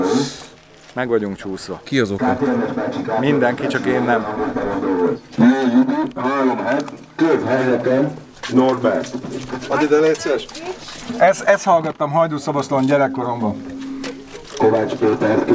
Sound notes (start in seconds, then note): 5.3 muttering